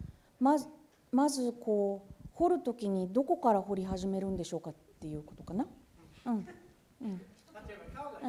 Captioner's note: speaking japanese